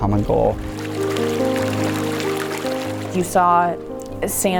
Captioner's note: water running